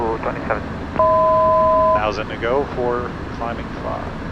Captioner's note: 1,000 foot tone